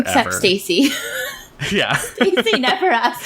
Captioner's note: laughs